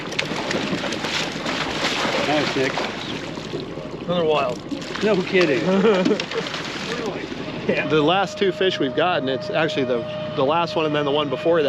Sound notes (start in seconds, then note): 0.0 fish splashing; 5.5 chuckling; 7.0 horn blaring